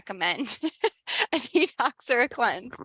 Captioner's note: laughs